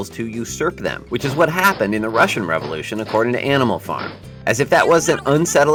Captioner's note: russian soldiers marching